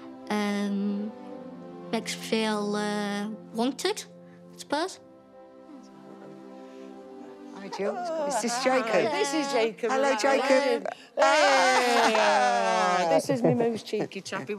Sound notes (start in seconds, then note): 11.7 they laugh